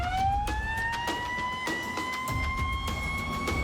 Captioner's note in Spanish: Sirenas